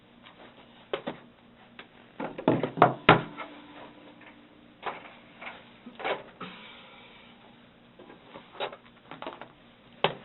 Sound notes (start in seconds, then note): 2.2 items hitting table top